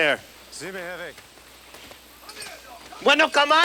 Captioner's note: Ignacio speaks Spanish; Bruto yells in Spanish